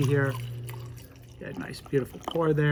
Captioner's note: coffee pours